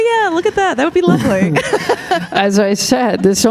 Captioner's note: laughing; chuckling